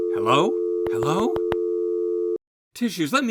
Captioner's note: dial tone